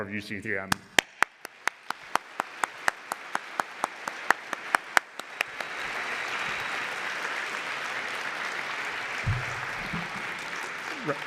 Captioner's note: applause